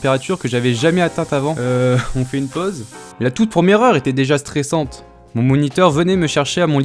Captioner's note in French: pchhh